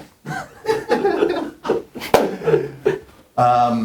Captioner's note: laughter